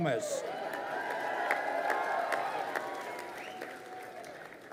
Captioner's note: crowd cheering